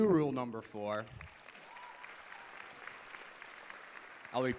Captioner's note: applause